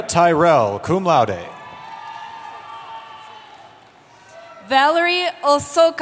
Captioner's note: cheering